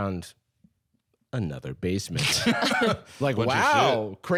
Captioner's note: laughing